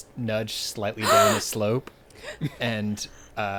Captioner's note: gasping